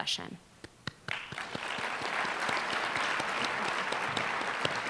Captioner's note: applause